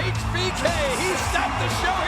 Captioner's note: audience cheering